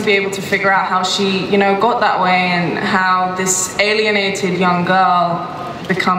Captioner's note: none